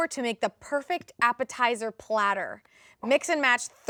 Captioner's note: none